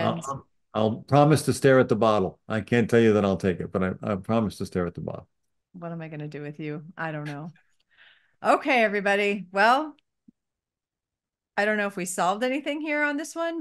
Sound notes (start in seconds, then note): 7.7 laughs